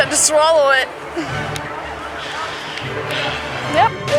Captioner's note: heavy sigh